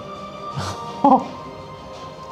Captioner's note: laughs